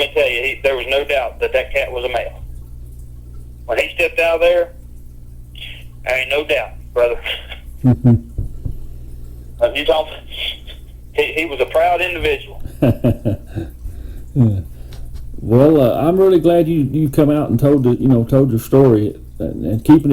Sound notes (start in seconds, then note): 7.8 chuckling; 12.6 chuckling